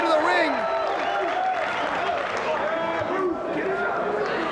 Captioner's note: spectators cheering